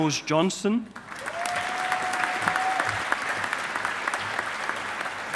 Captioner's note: audience applauding